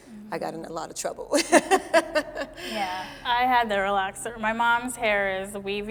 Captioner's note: laughing